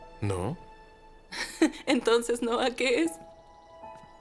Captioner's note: Emma laughs